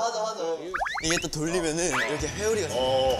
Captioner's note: snap